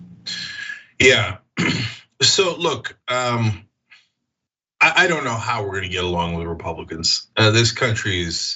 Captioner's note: cough